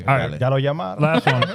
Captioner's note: speaking In Foreign Language